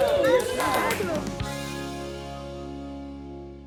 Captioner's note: group applauding